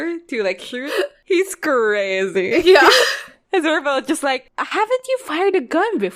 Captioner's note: laughs